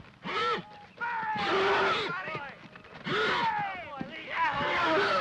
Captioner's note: horse grunts; men clamor; horse grunts in distress